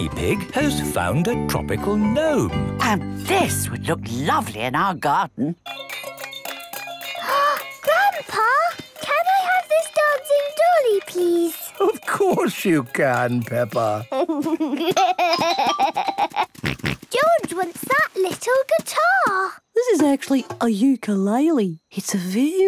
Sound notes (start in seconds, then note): 6.1 upbeat music; 7.2 gasps; 14.0 giggles, snorts